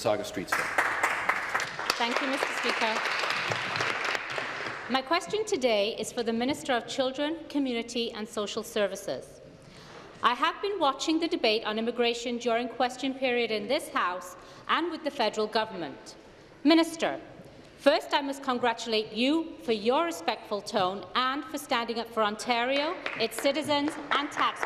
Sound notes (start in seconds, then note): 4.6 applause